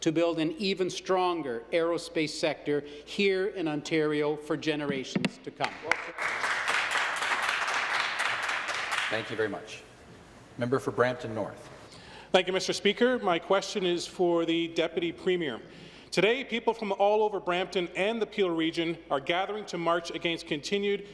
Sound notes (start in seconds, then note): 9.8 some Applause